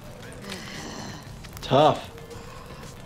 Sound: deeply inhales

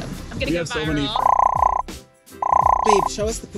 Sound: popping sounds

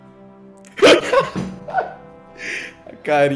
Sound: laughing

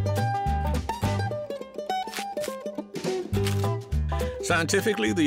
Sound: crunching footsteps

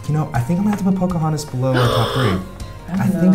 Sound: gasping

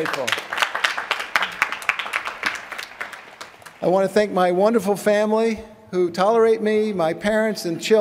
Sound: applause

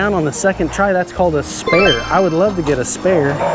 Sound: text tinkling

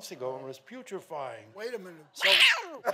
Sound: audience sighing

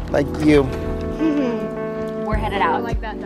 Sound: chuckles

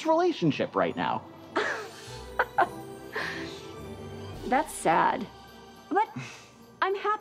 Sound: laughs

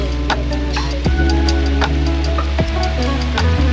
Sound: water running

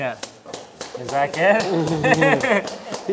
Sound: clapping

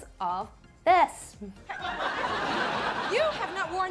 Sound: audience laughs

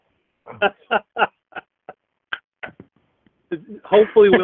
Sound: laughs

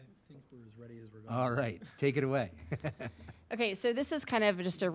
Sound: laughing

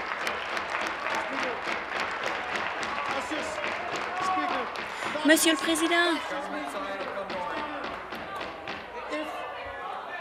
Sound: applause

